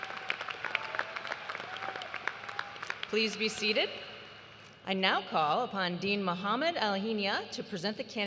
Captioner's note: applause